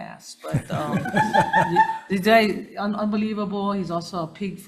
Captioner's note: laughing